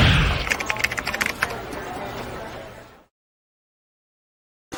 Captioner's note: keyboard keys clicking